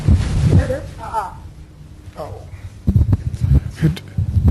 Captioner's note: mutters